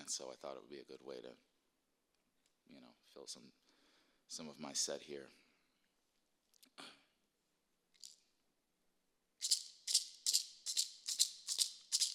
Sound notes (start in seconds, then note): 8.6 rattling